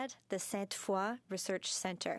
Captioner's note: speaking in French